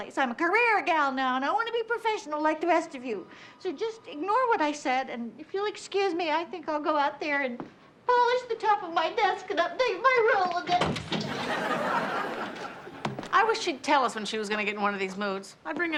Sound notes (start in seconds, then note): 10.7 door opens; 11.2 audience laughs